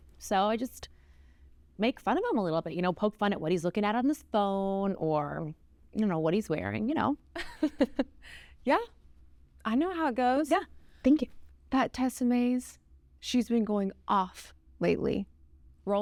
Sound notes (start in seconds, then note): 7.3 Ms. Blades giggles